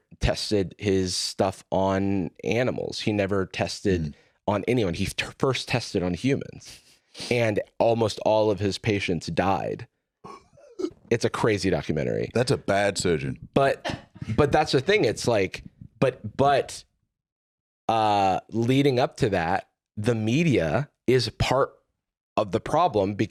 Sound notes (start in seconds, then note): 10.2 gasps